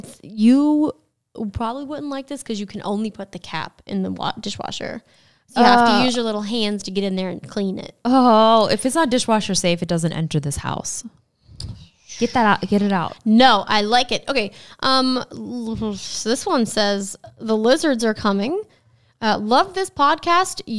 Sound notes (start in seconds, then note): 14.8 speaks gibberish